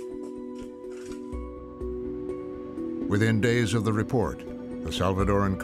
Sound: speaking Spanish

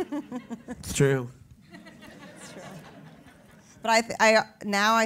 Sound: laugh; laugh

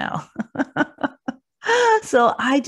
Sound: laughs

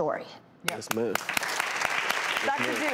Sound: audience applauds

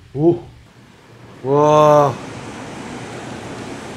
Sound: sound of the ocean

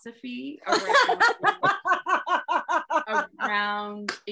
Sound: laughs

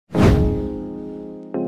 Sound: whoosh Sound

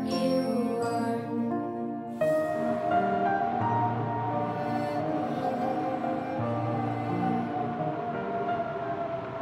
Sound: wind Blowing

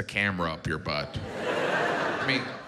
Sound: audience laughs

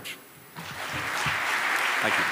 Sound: applause

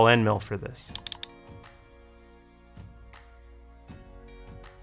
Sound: mouse clicking

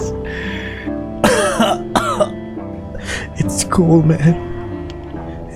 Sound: cough

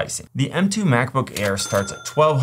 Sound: cash register chimes

